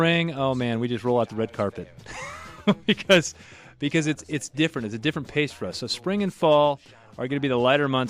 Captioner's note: laughs